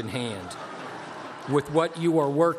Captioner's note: laughter